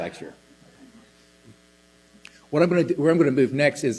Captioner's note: laughter